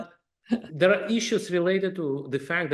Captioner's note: laugh